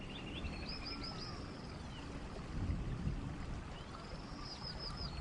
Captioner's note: birds chirping; water gurgling